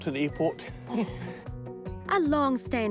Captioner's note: both chuckle